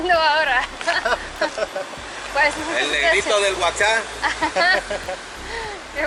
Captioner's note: laughter